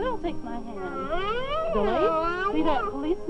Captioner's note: whining